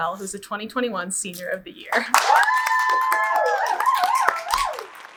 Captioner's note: audience cheers